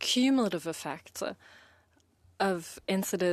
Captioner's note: speaking in French